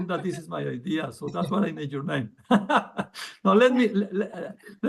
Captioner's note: laughs